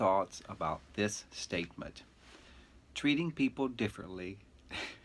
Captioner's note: chuckling; chuckling continues